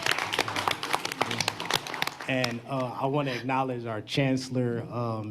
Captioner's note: applause